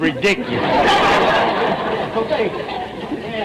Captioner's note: audience laughter